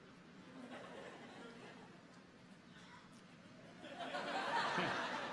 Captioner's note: people chuckle; people laugh